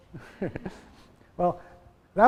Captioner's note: laughing